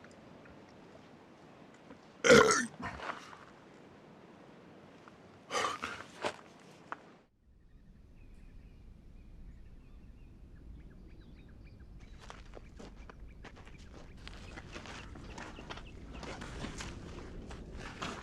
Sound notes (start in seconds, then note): 2.2 burping; 10.4 birds chirping